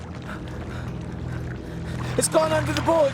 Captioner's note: breathing heavily